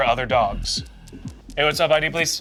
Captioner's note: paws tapping